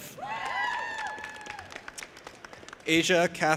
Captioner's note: audience applauding and cheering